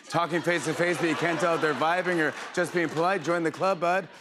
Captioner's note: laughter